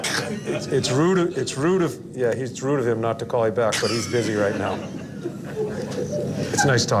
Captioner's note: laughter